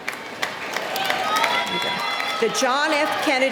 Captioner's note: clapping